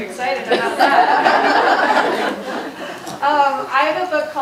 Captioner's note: audience laughing